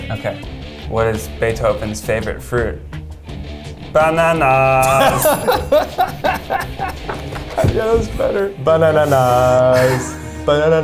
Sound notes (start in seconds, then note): 4.8 laughing; 5.0 bell rings